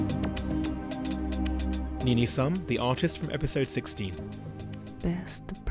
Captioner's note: voiceover